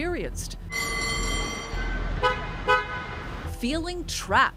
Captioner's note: trolley bell ringing; car horn honking